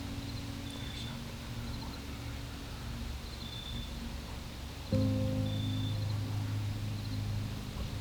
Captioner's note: whispering